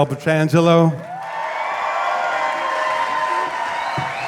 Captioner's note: audience cheering